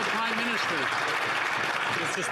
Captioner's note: some Applause